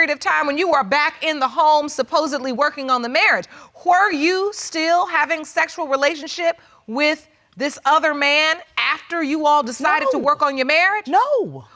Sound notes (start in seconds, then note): none